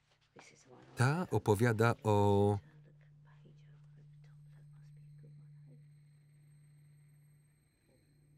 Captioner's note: voice fades away